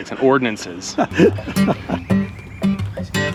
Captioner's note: laughs; mellow music